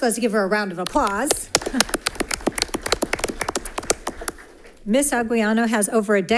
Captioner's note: audience applauding